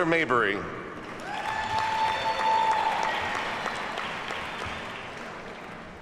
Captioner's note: audience cheers and applauds